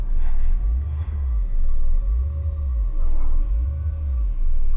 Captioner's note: ghostly voice whispering